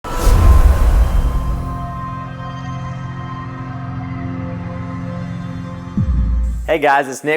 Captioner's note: sound effect